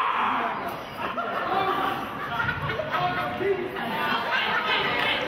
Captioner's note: audience laughing